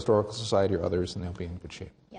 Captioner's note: voiceover